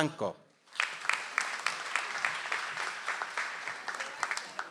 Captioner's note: audience applauds